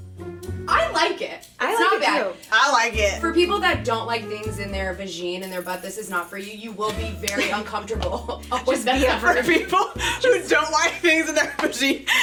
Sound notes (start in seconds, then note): 8.2 laughing